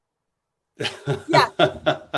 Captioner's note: laughter